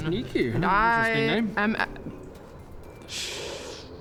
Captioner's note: none